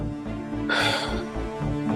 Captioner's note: exhales